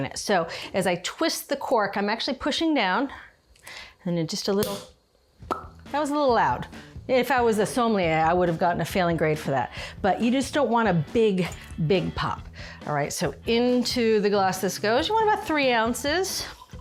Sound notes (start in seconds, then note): 5.4 cork pops; 5.4 mouth pops